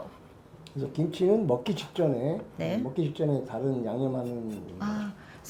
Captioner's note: speaking Korean